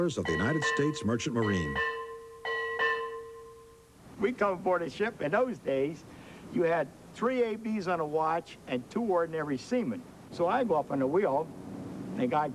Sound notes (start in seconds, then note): 2.5 ship's bell